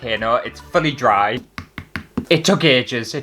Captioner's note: tap